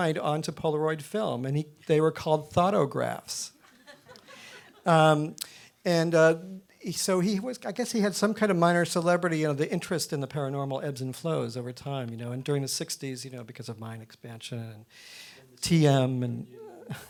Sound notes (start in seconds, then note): 3.7 audience laughing